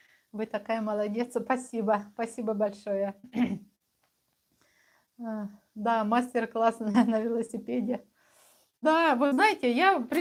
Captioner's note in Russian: откашливается